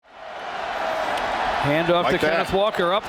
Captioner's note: crowd cheering